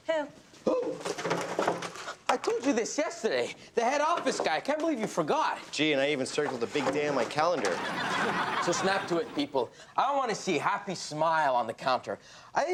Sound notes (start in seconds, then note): 7.7 audience laughs